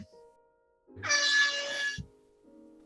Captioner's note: klaxon